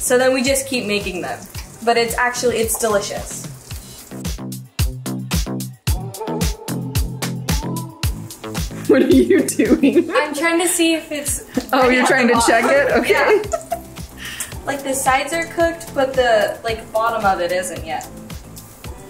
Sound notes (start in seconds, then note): 4.1 bright electronic music; 12.1 soft giggling